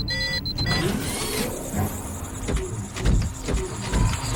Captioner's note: machine beeping; machine whirring; robot pads heavily